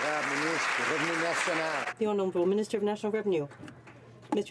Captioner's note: some Applause